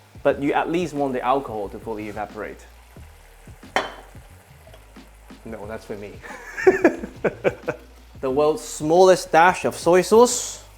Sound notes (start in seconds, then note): 6.2 laughs